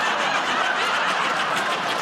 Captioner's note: laughter